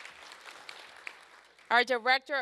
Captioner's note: applause